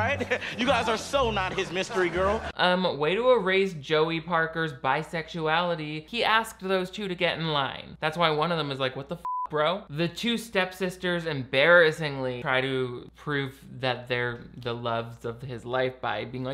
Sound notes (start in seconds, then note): 9.2 beep